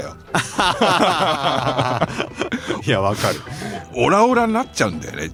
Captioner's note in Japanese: 笑い